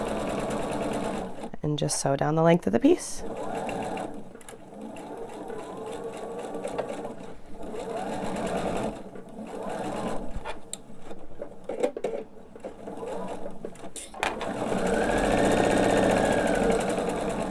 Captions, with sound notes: and just sew down the length of the piece. (sewing machine whirring)